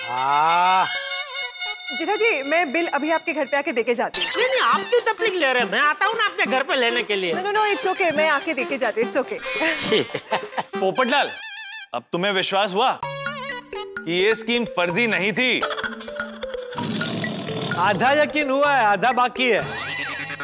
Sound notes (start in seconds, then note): 16.8 tiger roaring